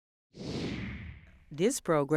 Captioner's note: logo whooshing